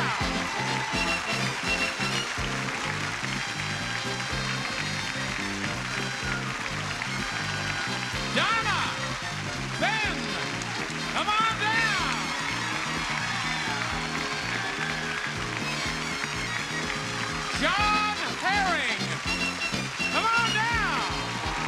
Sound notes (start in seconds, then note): 0.3 audience applauding; 0.3 exciting music; 12.4 audience applauding; 12.4 exciting music; 21.4 audience cheering; 21.4 exciting music